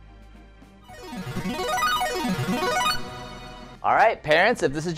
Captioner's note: electronic sound